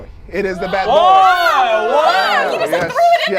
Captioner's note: overlapping chattering